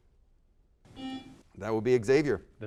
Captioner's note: buzzer sounds